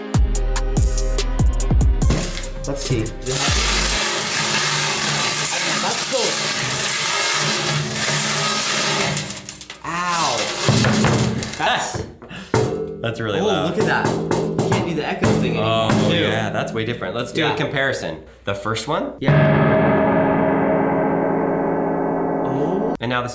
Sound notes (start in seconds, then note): 3.7 coins clanging; 6.5 metal clanging; 12.2 chuckles; 12.5 box clangs mutely; 13.8 knocking on box; 19.2 metal clangs loudly